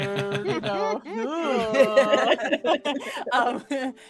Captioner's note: all laughing